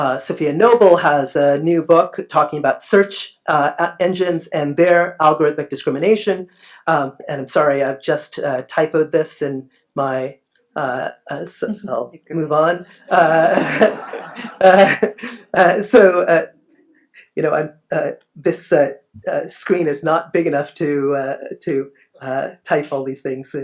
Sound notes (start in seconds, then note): 12.8 laughs